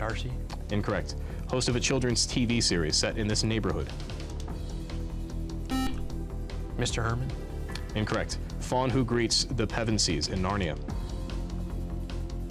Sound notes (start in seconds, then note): 5.7 beep